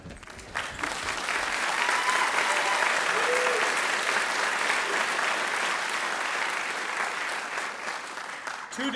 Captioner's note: applause